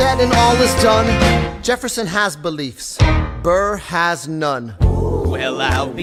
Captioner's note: ooooooooh